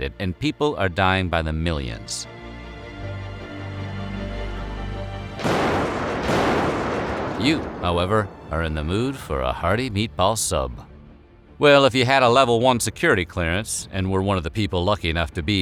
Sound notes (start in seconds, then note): 5.4 explosions